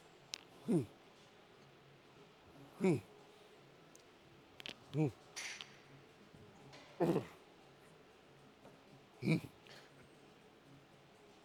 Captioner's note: grunting